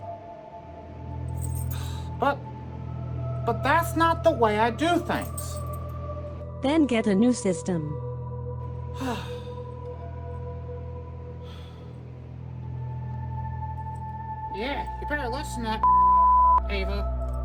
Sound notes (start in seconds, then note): 9.0 frustrated sigh